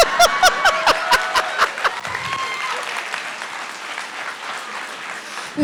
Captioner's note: RuPaul laughs; audience applauding